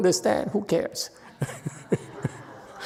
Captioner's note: laughs, audience laughs